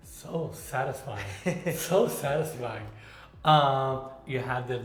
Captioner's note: chuckles